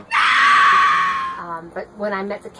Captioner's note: woman screaming 'No'